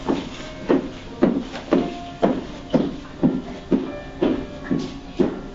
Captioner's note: footsteps walking away